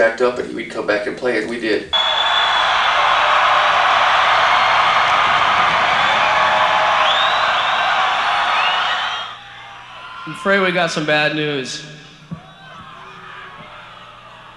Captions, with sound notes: and he would come back and play it. We did. (crowd cheering) - I'm afraid we got some bad news.